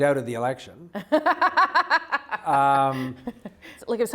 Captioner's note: laughs